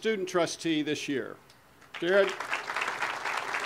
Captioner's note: audience applause